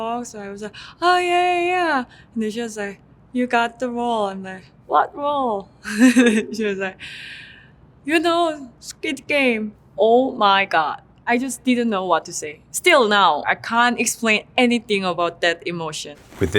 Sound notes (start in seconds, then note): 6.0 laughs